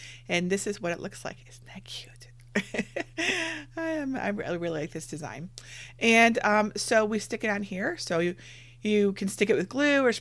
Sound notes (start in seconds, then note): 2.5 giggles